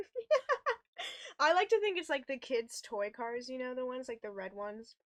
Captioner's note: laughs